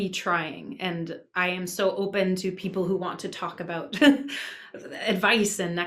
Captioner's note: laughs